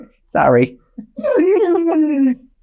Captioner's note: chuckling